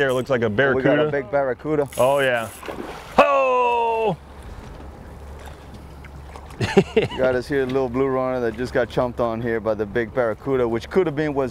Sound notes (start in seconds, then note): 1.9 water splashing; 6.5 laughs